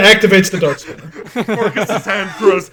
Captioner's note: laughter